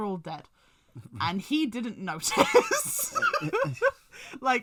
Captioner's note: laughs